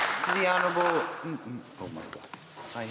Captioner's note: some Applause